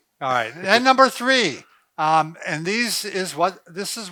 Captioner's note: laughs